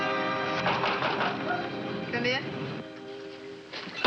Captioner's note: knocking